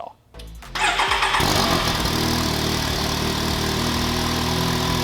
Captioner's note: engine starts